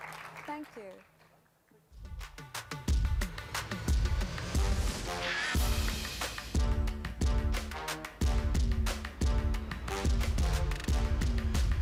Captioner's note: audience applauds